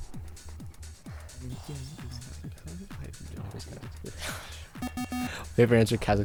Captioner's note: wispering